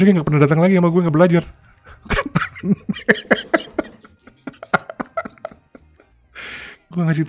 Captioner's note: laughs